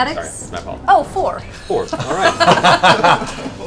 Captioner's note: laughs